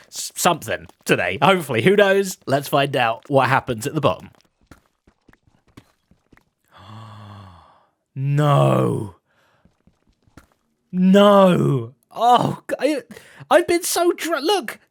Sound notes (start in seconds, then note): 6.7 gasps